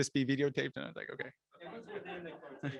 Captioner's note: chuckling